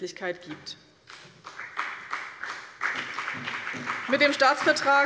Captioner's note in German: Beifall bei der SPD und bei Abgeordneten der CDU